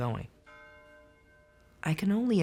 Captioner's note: bell tolling